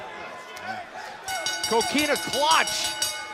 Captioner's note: bell ringing